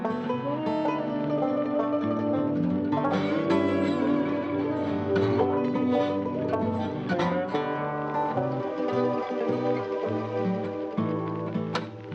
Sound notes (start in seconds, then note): 7.6 cigarette sizzling